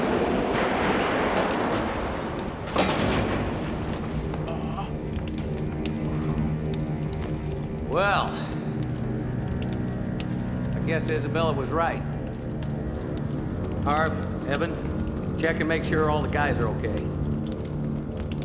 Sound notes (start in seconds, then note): 4.3 grunts